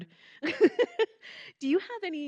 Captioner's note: laughing